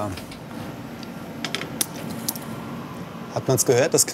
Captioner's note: quiet crackling